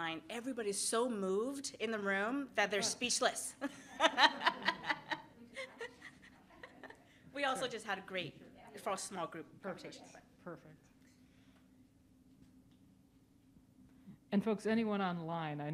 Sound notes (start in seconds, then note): 3.6 laughs